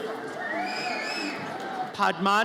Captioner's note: audience member whistles